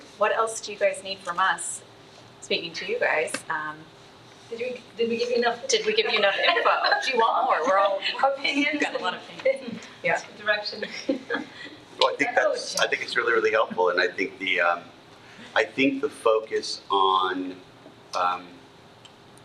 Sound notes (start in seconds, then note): 8.5 attendees chattering